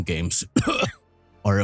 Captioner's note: coughs